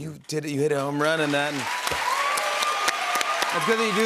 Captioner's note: cheers and applause